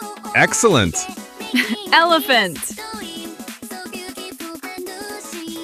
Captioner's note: laughs